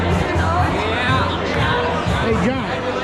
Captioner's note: applause